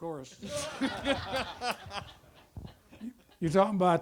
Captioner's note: audience laughter